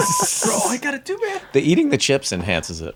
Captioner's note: laughs; beep